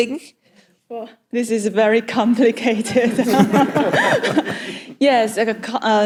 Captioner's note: audience laughs